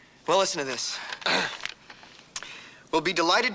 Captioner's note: clearing throat